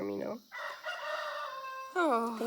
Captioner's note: cackling